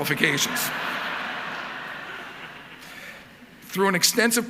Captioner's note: audience laughing